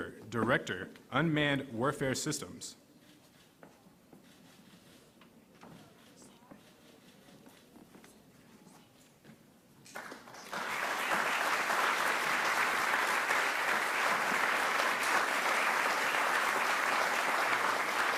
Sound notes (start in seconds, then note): 4.1 cameras clicking; 9.8 audience clapping